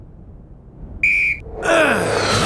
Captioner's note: whistle blowing; grunting